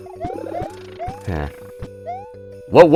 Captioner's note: sigh